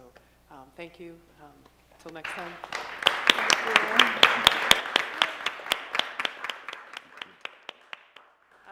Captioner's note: applause